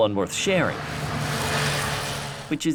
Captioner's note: motorcycle whooshing